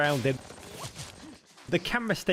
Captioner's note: gunfire